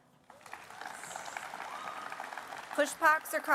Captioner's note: applause